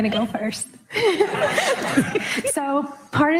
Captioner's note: all laughing